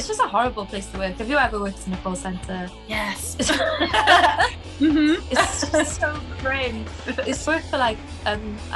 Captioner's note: laughs